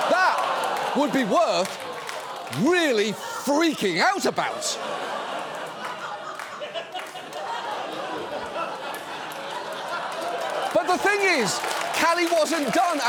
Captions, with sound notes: That would be worth really freaking out about. (STUDIO AUDIENCE LAUGHS) But the thing is, Calley wasn't done,